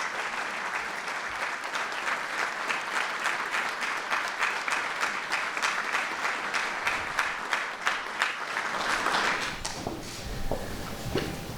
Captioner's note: applause